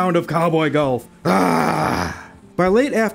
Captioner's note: growl